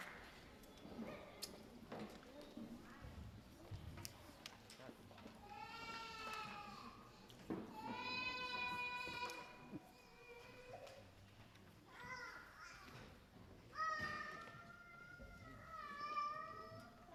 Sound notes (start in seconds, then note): 5.8 baby crying